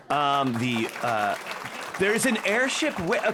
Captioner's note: audience Laughing